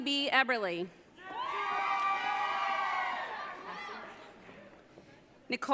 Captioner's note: audience cheering